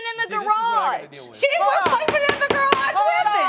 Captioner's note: gavel banging